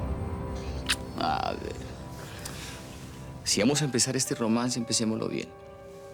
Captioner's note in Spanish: Ruido del beso